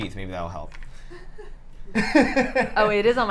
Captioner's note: laughter